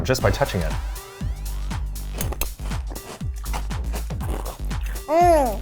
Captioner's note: upbeat techno music; cereal crunching